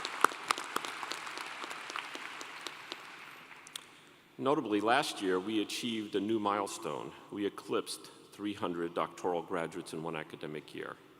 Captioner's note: applause